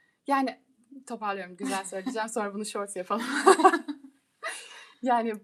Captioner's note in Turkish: kahkaha